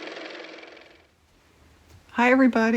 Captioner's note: car motor